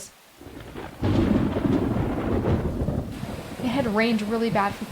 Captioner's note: thunder crashing